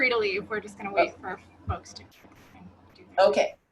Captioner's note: faintly speaking